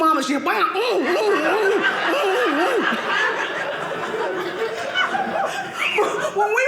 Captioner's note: audience laughing